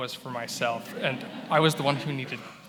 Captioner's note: attendees laughing